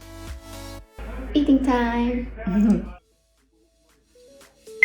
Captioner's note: chuckles